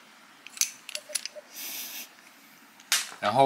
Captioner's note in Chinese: 鼻を鳴らして